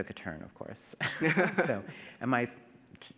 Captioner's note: chuckling